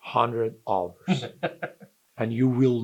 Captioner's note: laughs